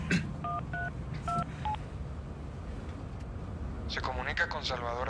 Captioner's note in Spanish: Sonido al marcar